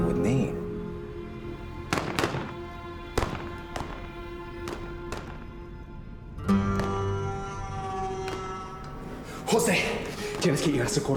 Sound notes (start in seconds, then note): 1.9 gunshots; 10.3 speaking spanish